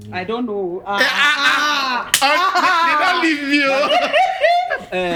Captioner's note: laughing